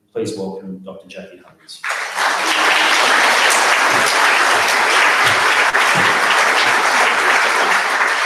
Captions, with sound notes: Please welcome Dr. Jackie Huggins. (audience applauds)